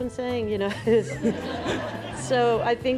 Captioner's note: audience laughs